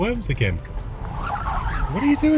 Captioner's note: tires screeching